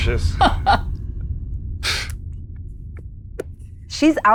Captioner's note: laughs